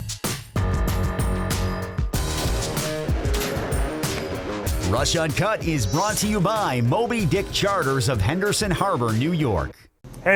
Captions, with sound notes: (upbeat music) (gun firing) Rush Uncut is brought to you by Moby Dick Charters of Henderson Harbor New York.